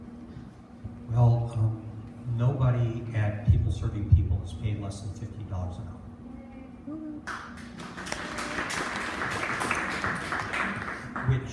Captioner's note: applause